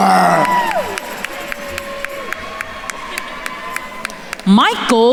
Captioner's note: attendees cheering and applauding